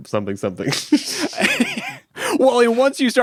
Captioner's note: chuckling